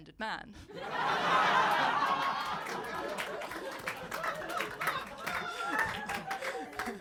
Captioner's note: audience laughing and clapping